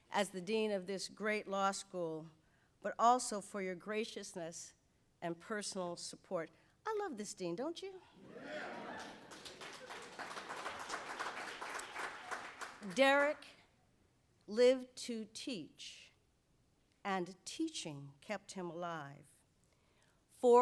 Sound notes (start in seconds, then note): 8.3 audience applauds